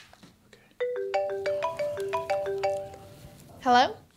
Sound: phone ringing

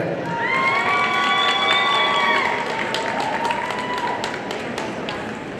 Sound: audience cheering and applauding

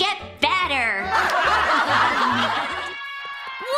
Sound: laughing

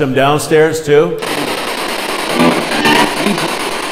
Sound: spirit box buzzing

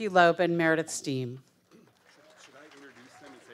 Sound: audience applauding

